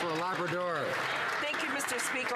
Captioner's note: some Applause